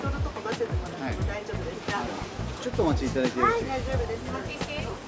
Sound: speaking in Japanese

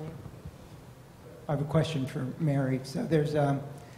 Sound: voiceover

